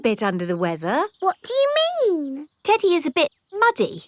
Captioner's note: in normal voice